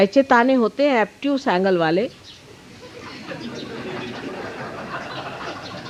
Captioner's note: yogis laugh